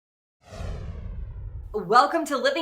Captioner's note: title swooshes